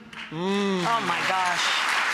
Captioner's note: audience applause